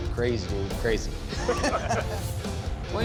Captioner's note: laughs